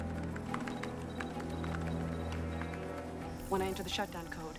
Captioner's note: Korean; electronic Beeping